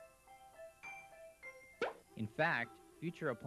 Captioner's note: popping sound